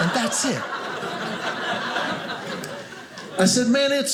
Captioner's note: audience laughing